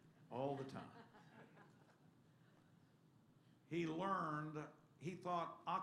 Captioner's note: laughter